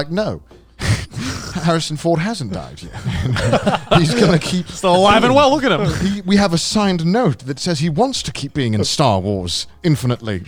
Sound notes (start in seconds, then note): 2.2 laughs